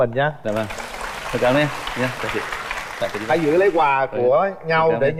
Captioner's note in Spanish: Aplaudir